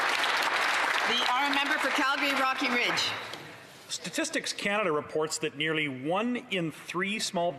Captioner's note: applause